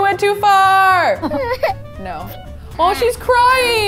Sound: baby cries

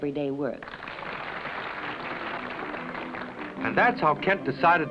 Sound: applause

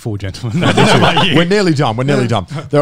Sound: laughing

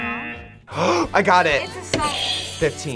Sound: buzzer; gasps; buzzer rings

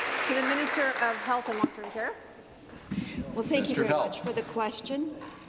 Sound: applause

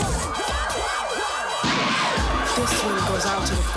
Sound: police siren wailing

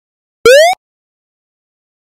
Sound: video Game Jump

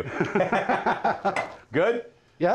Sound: laughing

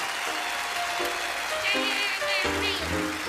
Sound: audience applauding

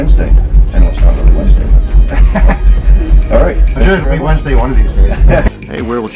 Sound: chuckles

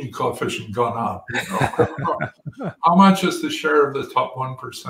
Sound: laugh

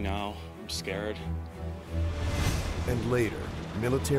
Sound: voiceover

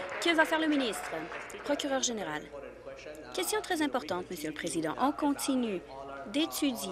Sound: applause

